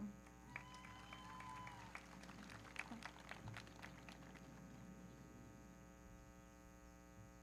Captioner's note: everybody clapping; audience cheering